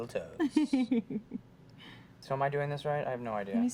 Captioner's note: lightly laughs